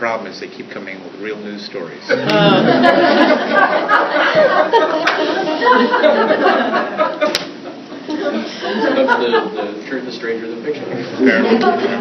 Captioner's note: laughter